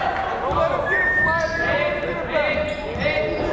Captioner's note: yelling